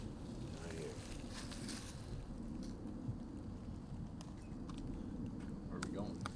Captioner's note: crujido de la salida